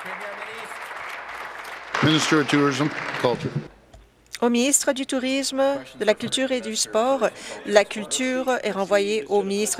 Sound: applause

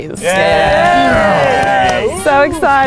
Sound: cheering and clapping

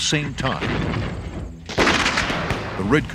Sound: gunfire

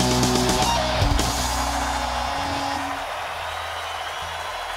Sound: upbeat rock music; crowd cheering

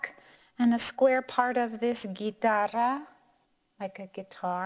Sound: speaking in foreign language

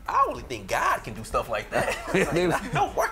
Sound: laughter

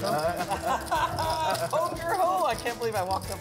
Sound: laughing

